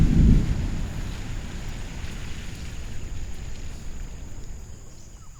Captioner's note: rain drumming